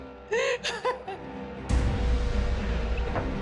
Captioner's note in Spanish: Sollozos